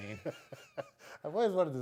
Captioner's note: laughing